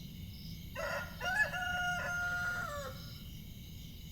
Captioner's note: A rooster crows